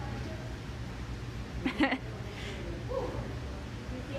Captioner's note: laughs